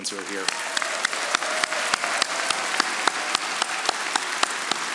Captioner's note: audience applauding